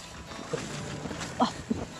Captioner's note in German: Ächzen